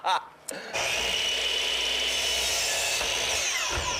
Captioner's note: laughs; electric saw buzzing